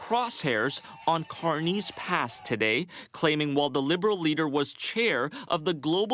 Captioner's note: cheering